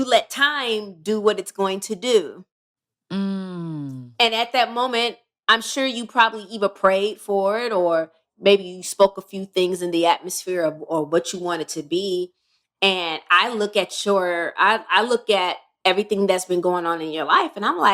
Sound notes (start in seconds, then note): none